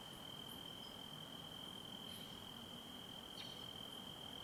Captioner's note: crickets chirping